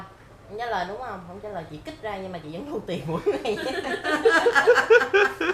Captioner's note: laugh